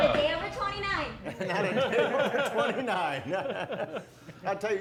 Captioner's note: laughing